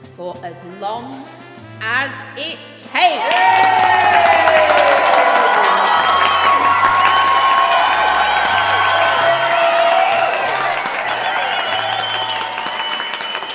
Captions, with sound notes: For as long as it takes! [The crowd erupts into cheering and applause]